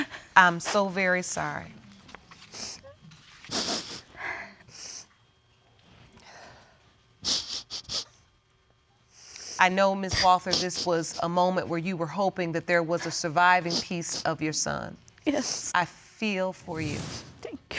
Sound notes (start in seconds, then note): 3.4 sniffling